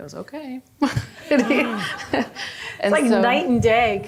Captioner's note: group laughing